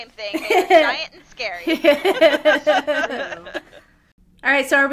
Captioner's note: laughter